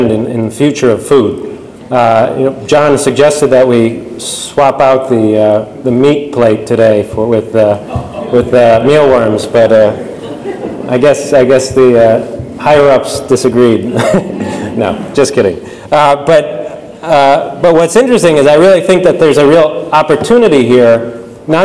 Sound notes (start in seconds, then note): 13.8 laughs